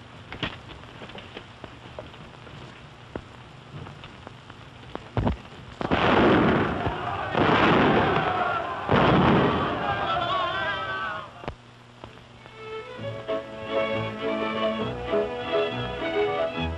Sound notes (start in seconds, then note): 5.8 gun salute firing; 12.5 waltz music playing